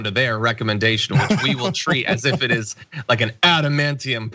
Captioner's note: laugh